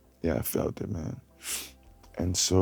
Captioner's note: sniffles